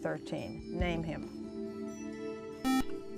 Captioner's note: buzzer